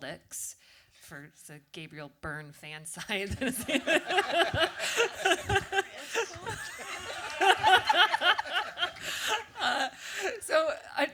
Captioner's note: audience laughter